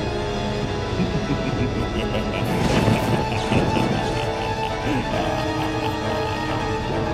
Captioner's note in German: böses Lachen